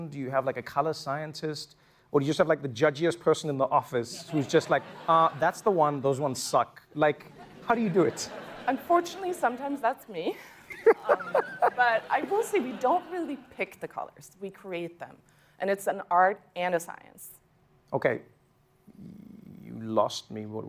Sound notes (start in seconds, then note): 10.5 laughs